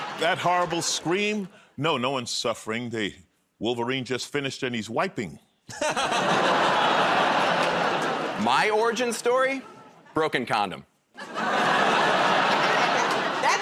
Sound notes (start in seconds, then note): 0.0 laughter; 6.0 audience groans; 6.0 laughs; 11.2 laughter